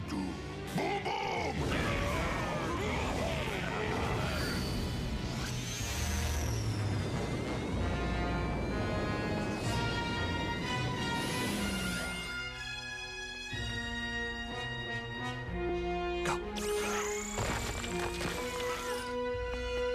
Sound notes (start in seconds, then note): 2.7 grunting